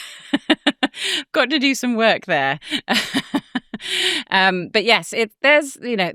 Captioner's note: chuckles